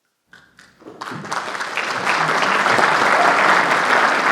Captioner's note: audience applauding